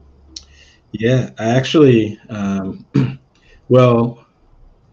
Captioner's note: clears throat